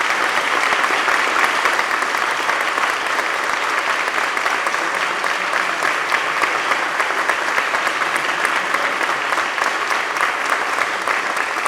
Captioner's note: applause